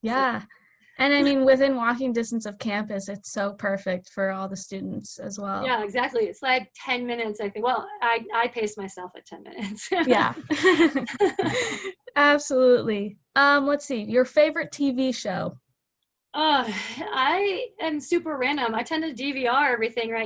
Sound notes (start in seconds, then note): 9.6 laughter